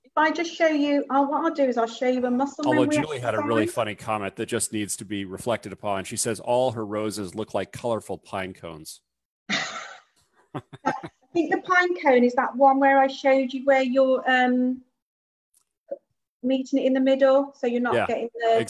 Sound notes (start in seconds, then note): 10.5 chuckles; 10.5 laughs